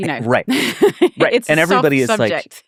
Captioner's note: laughing